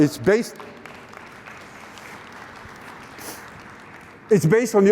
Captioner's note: applause